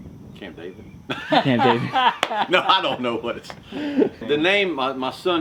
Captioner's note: laughter